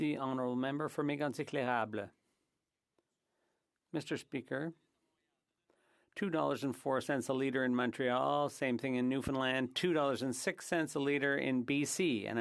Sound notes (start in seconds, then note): 8.0 speaking French